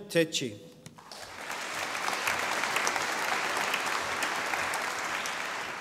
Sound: audience applauding

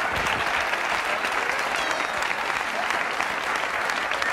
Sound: audience applauding

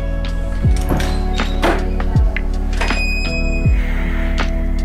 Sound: door creaking

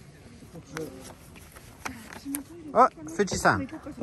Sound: rustle

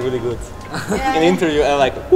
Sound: laughs

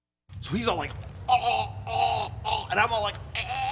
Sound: choking noises; choking and laughing noises

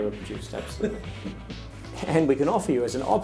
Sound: laughter

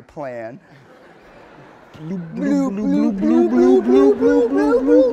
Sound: both blubbering

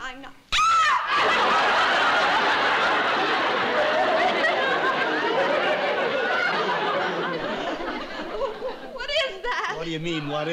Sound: shrieks

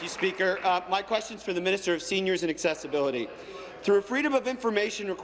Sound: some Applause

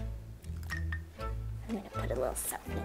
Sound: ice clinks

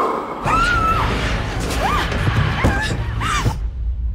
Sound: Sandra screams

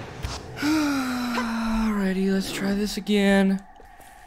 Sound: sigh

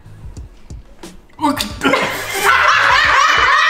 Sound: gagging; all laughing

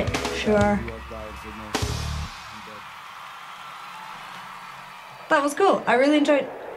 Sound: audience applauding

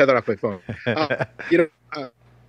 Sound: laughs

